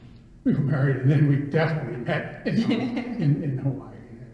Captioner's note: laughs